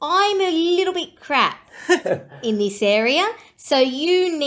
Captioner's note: laughs